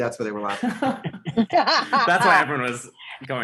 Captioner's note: everyone laughing